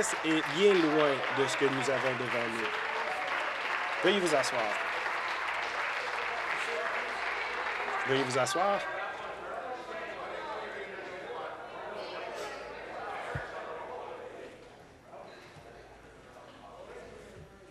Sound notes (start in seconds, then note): 6.6 applause